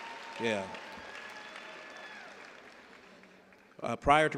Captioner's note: cheers and applause